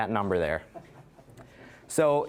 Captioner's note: audience laughing